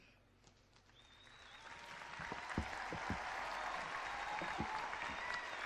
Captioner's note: clapping and cheering